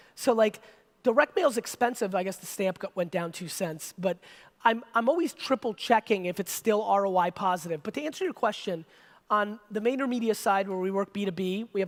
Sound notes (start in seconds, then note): none